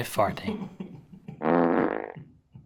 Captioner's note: farting sounds